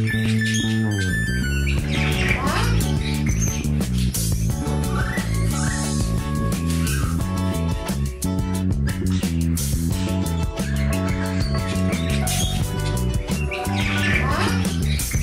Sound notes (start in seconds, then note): 0.0 birds chirping; 0.0 gentle bright music; 1.8 birds chirping; 1.8 bright music